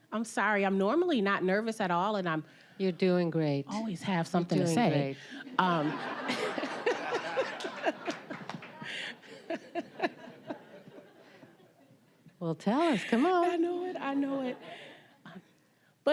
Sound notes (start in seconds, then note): 5.4 all laughing